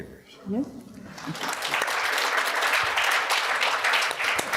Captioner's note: audience applauds